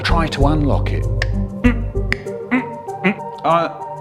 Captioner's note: click